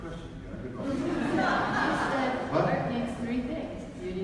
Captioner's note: audience laughs